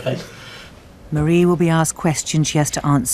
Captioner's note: voiceover